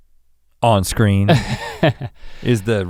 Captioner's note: Link chuckles